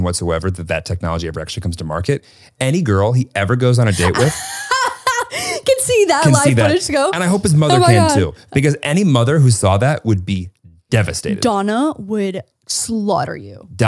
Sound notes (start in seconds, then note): 3.8 laughs